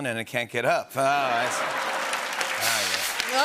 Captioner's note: laughter and applause